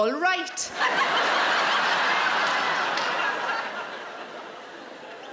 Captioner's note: audience laughing